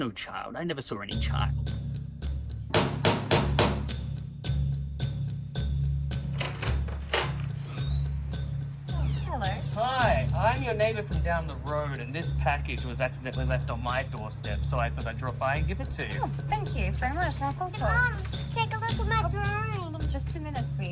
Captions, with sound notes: I never saw any child. [pounding music] [knocks on door] - Oh, hello. - Hi. I'm your neighbour from down the road and this package was accidentally left on my doorstep. So I thought I'd drop by and give it to you. - Oh, thank you so much, I'll... - Hey, mom. Take a look at my drawing. - Just a minute, sweetie.